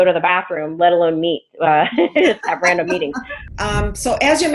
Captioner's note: laughing